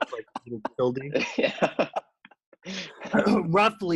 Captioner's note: men laughing